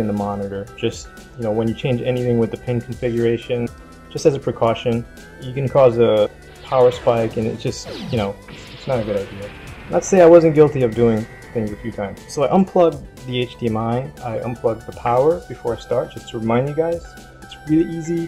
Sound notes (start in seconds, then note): 6.6 epic Kaiju battle sounds in background